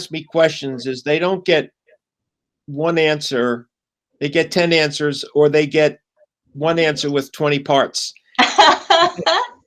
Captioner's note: laughter